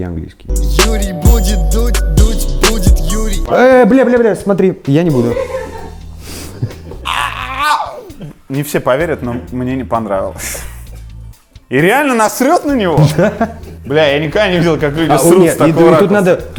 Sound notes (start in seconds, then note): 0.4 title card music; 5.1 laughs in the background